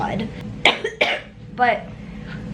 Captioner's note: coughing